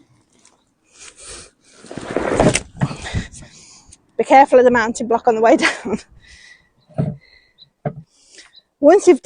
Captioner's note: giggles